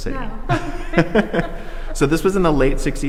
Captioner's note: both people laughing